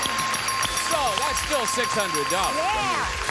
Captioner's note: dinging